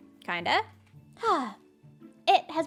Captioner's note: happy sigh